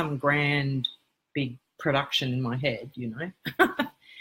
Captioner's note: laugh